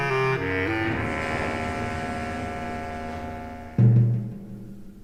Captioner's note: thunderclaps